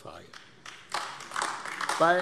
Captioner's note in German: Beifall AfD